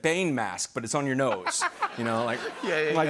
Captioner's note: laughter